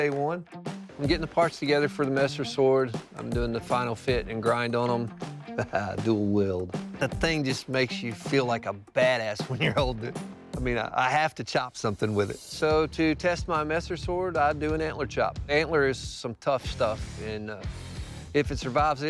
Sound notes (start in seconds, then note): 5.4 laughs